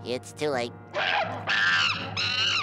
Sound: screeching

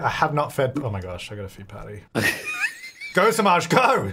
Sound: laughing

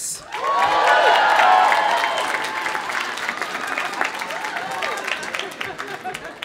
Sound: audience applauding; audience cheering

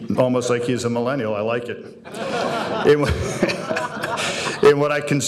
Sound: audience laughing

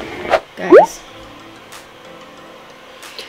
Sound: upbeat music; logo popping

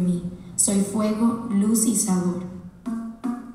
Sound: speaking Spanish; upbeat music

